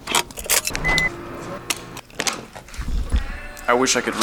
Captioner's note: lots of beeps and boops